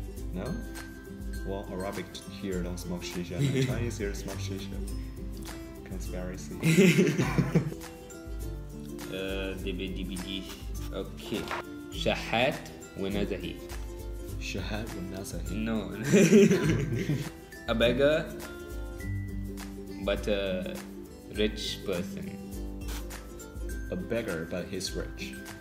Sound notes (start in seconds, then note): 6.6 laughter; 11.5 Arabic